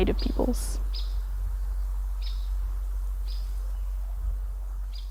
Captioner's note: birds chirping